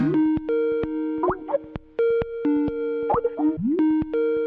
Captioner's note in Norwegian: Skype ringelyd